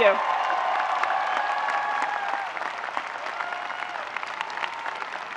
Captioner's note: audience cheering and applauding